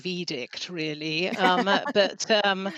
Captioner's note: laughter